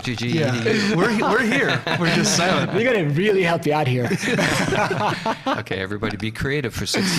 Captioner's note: laughing and animated chatter